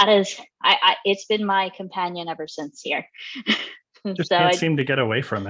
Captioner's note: laughs